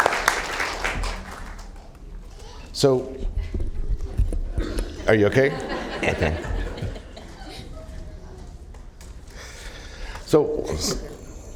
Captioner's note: applause